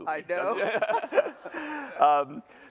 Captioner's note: laughter